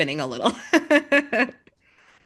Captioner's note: laugh